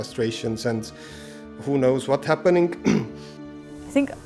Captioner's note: cough